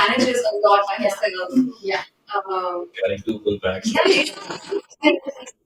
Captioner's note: laughter